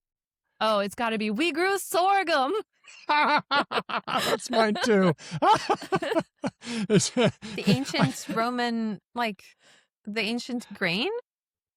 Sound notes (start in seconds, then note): 2.9 laughter